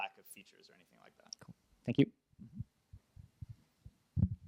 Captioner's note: voiceover